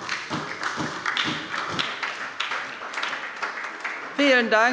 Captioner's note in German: Beifall bei der SPD